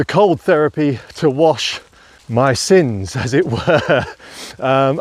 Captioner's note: laughs